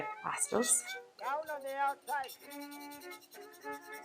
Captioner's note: scratch, scratch, scratch